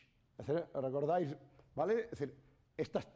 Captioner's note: speaking spanish